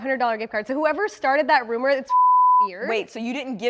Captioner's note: beep